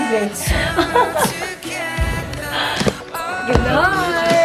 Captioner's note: laughs